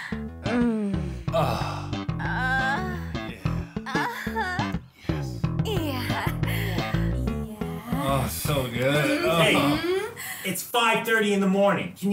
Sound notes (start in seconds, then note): 1.3 moaning; 3.9 moaning intensifies; 5.8 chuckles